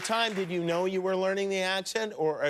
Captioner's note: cheers and applause